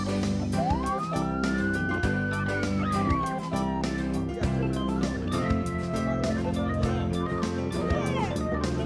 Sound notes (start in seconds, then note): 0.5 police car siren